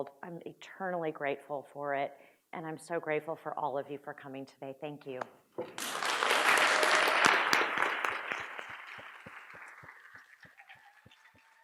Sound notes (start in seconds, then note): 5.6 audience applauds